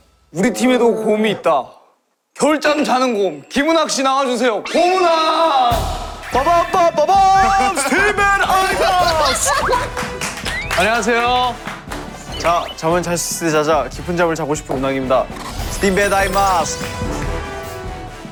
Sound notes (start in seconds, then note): 5.6 howling